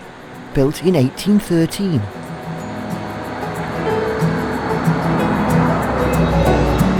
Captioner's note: sound of fast running water in the river